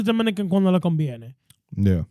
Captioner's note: speaking In Foreign Language